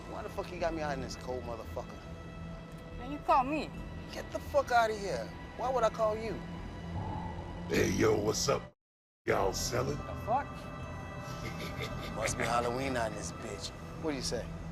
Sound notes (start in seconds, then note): 11.3 JUJU laughs